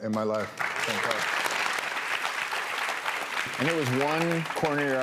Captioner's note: audience claps